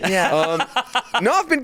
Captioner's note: laughing